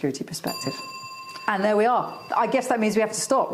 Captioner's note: clock chiming